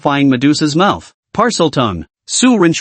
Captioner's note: Parseltongue